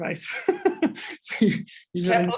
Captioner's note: chuckle